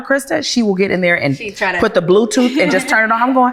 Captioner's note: laughs